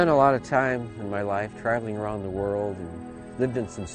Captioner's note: voiceover